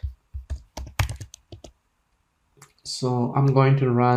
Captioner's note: keys click